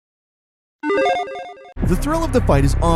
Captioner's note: electronic chiming